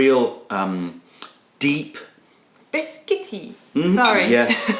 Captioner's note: laughter